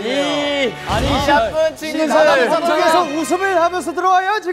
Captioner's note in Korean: 열렬한 호응